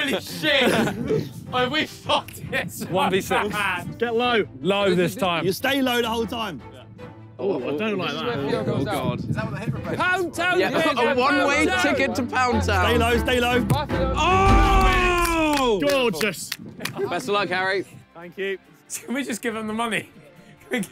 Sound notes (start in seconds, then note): 14.7 players clap